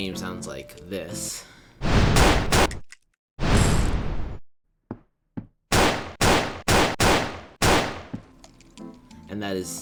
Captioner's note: whoosh, boom, boom, click click spin, whoosh, boom, boom, boom, boom, boom